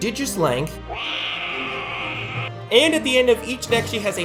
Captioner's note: roaring